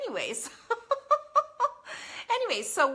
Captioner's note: laughs